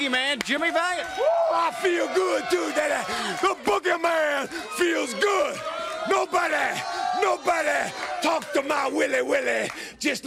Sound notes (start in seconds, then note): 6.6 crowd cheering